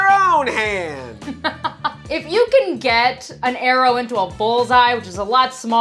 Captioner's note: laughs